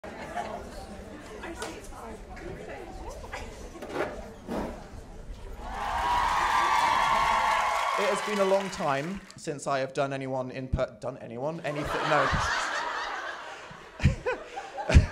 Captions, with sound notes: (audience murmuring) (audience cheering) - It has been a long time since I have done anyone... Done anyone? Anything, no. (laughter)